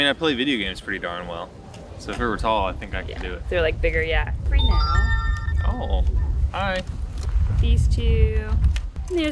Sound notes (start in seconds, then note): 4.5 electronic chiming